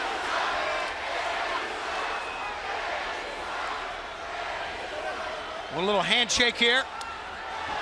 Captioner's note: crowd cheering